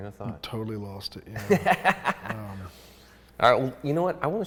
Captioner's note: laughs